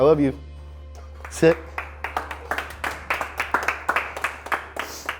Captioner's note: crew members applauding